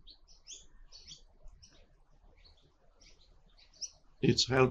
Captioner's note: birds chirping